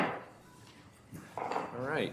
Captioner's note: banging gavel